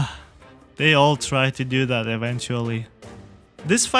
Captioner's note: sigh